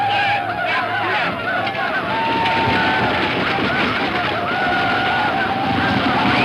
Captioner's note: horses rumbling; Indians shouting